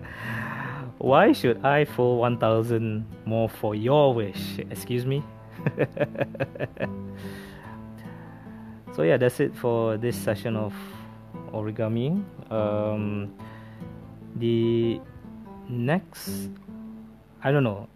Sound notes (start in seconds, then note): 5.5 laughs